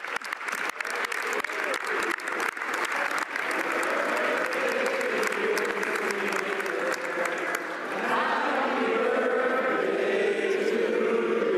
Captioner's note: some Applause; applause